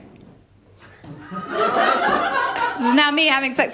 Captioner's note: laughter